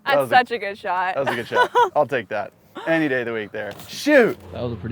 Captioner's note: laughs